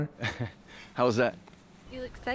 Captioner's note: chuckles